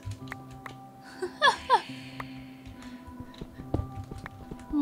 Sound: laughing

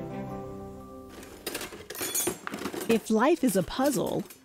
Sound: junk pieces rattling

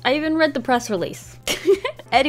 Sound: laughs

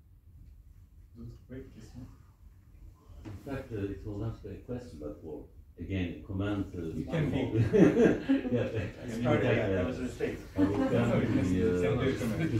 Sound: laughs

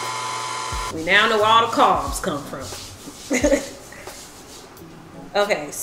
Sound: chuckles

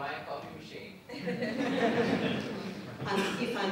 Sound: audience laughs

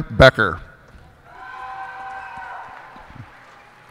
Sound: cheers and applause

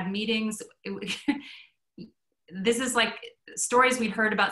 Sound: chuckles

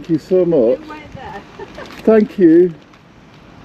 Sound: laughs

